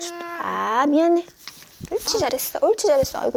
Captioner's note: pop in